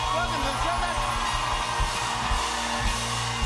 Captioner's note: cheers and applause continue